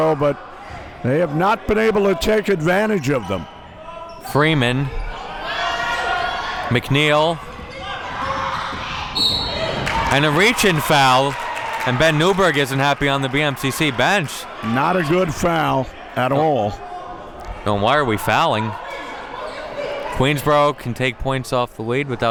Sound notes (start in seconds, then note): 9.1 whistle blows